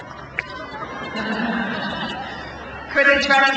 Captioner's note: crowd laughs